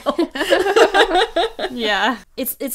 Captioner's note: hosts laugh